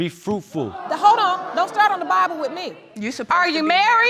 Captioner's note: audience exclaims